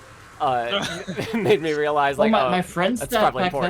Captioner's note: laughs